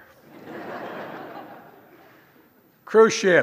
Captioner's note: laughter